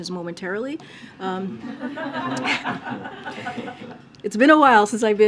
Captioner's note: laughter